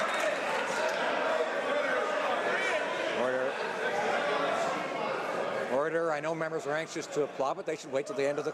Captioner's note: some Applause